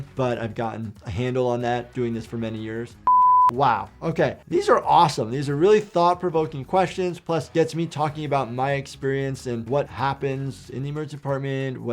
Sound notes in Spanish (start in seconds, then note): 3.0 pitido en pantalla